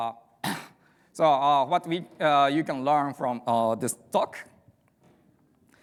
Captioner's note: clears throat